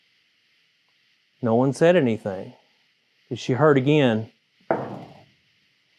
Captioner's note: knock